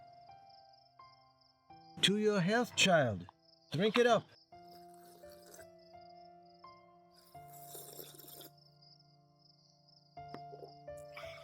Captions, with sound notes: To your health, Child! Drink it up! [Heidi slurping] [Clara slurping]